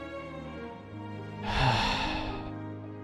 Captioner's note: sigh